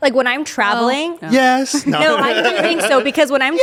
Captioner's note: laughs